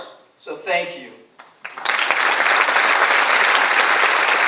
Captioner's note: audience applauds